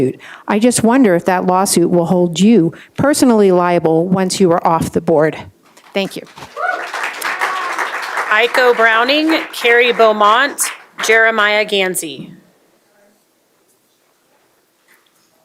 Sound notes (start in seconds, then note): 9.7 applause